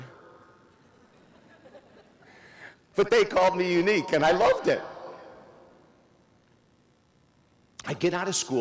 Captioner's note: audience laughs